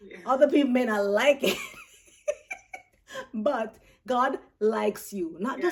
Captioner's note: laughs